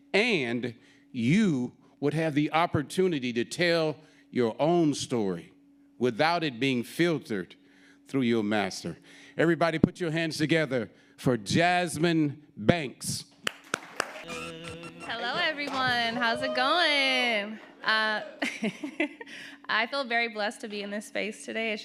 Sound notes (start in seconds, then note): 13.4 audience applauding; 18.8 laughs